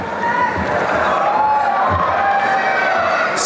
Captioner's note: applause and cheering